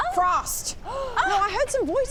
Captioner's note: gasp